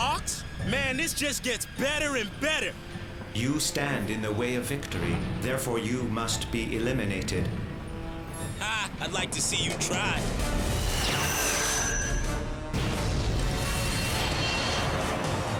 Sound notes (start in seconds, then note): 12.6 loud blast; 12.8 boom